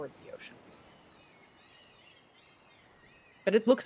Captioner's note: birds cawing